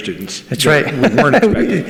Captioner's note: laughs